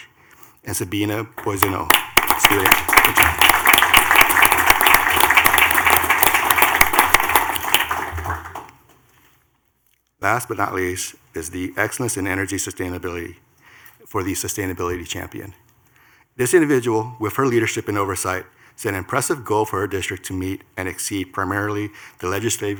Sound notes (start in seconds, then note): 7.6 clapping